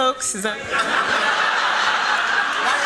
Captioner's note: laughter